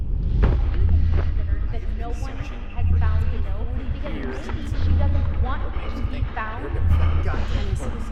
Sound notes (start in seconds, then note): 0.4 swirling voices